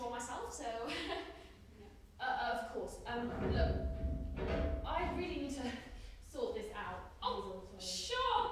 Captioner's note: clatter